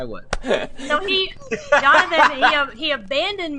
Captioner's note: laughs